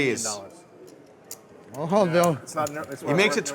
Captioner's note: poker players chattering